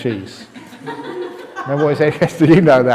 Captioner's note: laughter